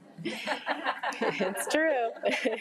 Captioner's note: attendees laugh